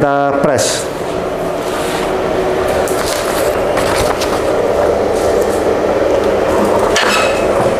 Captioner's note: teflon paper sound; press machine sound